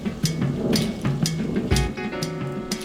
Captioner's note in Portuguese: trovoada